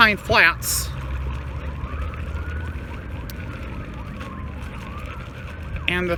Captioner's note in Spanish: lamentos de sirenas